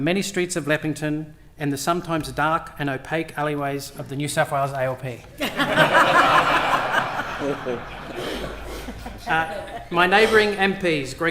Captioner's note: laughter